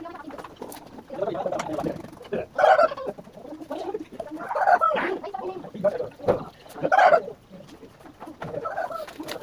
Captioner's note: laughs